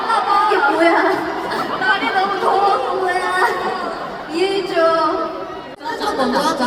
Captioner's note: laugh